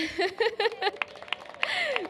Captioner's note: laughs; cheers and applause